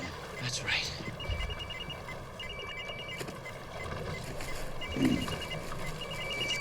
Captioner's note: phone ringing